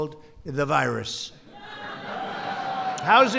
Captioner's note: applause